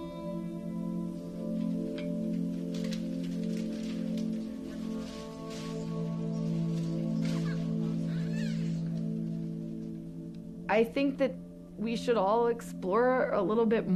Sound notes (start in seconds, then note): 7.3 baby fussing